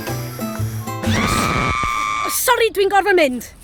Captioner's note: screeeeaaam